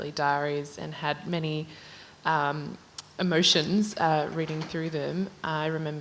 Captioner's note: hesitates